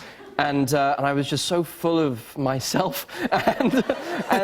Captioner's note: laughter